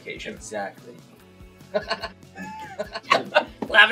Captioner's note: laughs